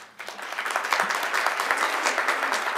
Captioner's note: applause